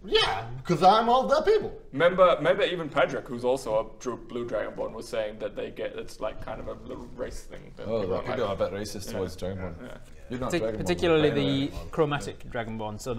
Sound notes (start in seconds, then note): none